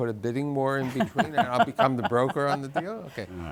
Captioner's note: guests laughing